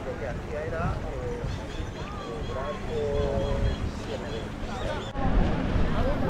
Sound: drone

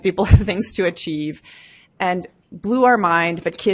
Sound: laughs

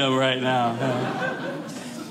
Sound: audience laughing

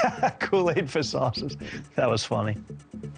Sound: laughs

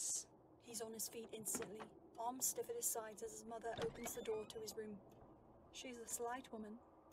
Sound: door opening

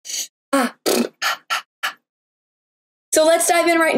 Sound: exhales

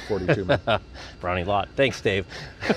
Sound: laughter; laughing

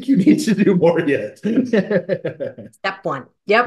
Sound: laughs

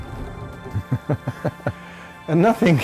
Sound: laughter

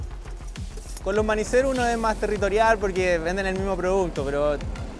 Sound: speaks Spanish

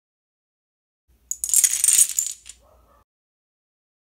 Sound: dominoes falling

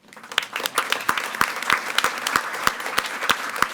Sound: audience clapping

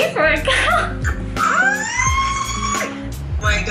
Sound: screams

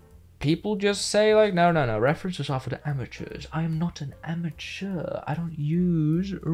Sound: fancy accent again

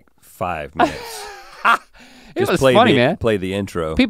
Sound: laughs

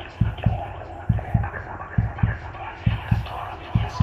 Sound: whispering

